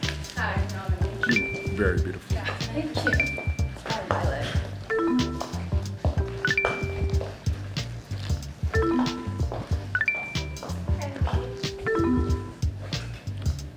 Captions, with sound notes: - Hi, I'm Yamini. - You are very beautiful - Yeah, thank you. - Hi, I'm Maya. - Hi, I'm Kayleigh. (bell dings)